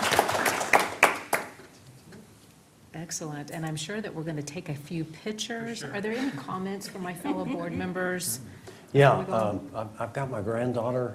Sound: applause

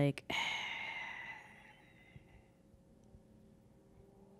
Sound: sighs deeply

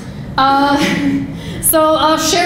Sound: laughing

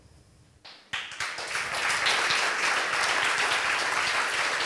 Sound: audience applause

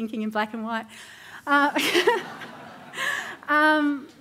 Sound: laughter

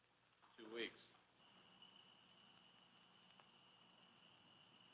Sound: crickets chirping

